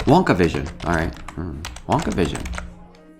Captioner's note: hums